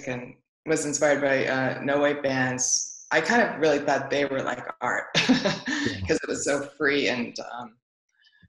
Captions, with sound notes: and was inspired by no-wave bands I kind of really thought they were like art. (laughs) 'Cause it was so free and